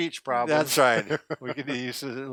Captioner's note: laughing